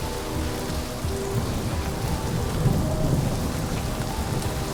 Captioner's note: thunder rumbles